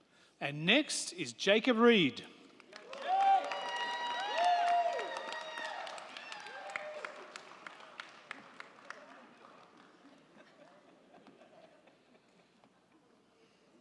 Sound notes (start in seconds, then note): 2.4 crowd clapping; 2.7 crowd cheering